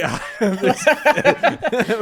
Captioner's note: laughing